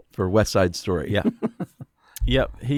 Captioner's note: laughs